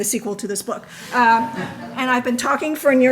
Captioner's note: audience laughing